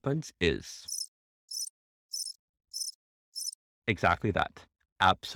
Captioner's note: crickets chirping